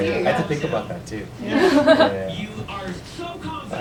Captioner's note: laughter